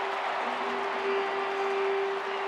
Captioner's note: crowd cheering